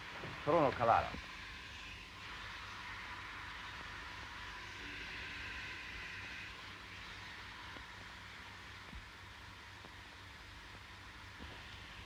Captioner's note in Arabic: هسهسة البخار